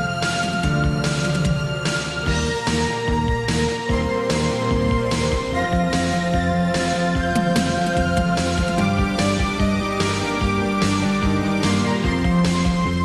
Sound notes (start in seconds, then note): none